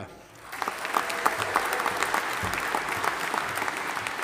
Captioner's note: audience applauding